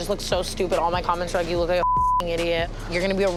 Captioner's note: beep